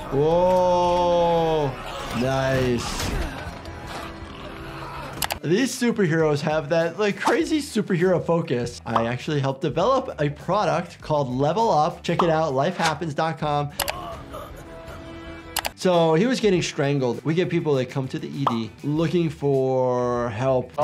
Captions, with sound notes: Whoa! Nice. (keys clack) These superheroes have that like crazy superhero focus. I actually helped develop a product called 'Level Up'. Check it out, lifehappens.com. (man grunts) So he was getting strangled. We get people that come to the ED looking for help.